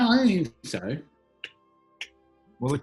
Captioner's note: ticks